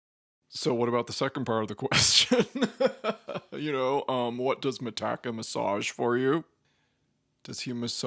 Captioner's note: laughs